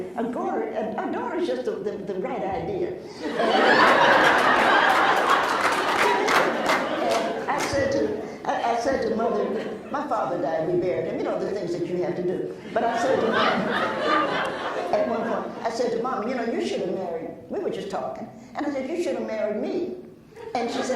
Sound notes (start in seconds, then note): 3.1 laughs; 4.2 applauds; 8.3 laughs